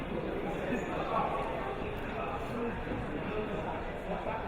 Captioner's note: crowd murmuring